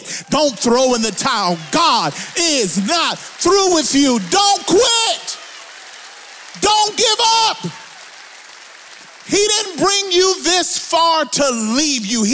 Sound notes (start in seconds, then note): 5.2 audience applauds; 5.2 audience cheers; 7.7 audience applauds